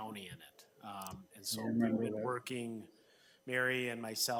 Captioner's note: speaking faintly